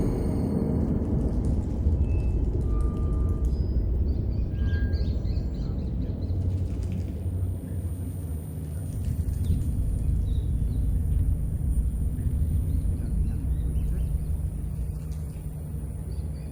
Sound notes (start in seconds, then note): 5.1 rats squeaking; 7.4 eerie ambient music